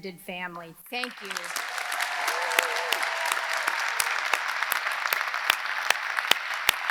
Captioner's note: audience applauding; audience cheering